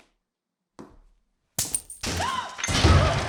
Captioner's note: chain breaks